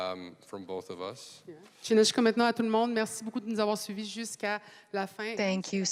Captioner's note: speaking French